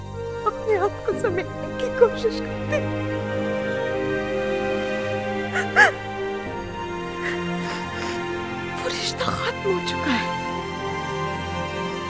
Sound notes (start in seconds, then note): 5.5 Crying